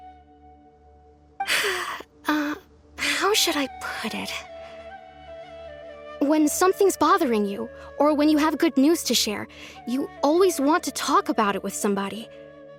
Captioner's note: sigh